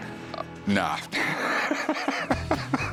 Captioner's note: laughs